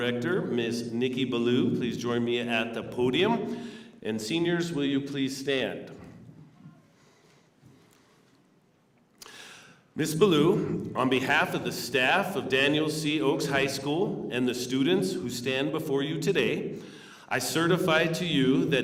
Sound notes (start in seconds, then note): none